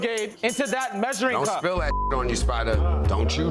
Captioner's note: beep